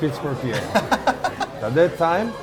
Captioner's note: laughs